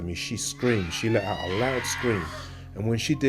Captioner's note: lady screaming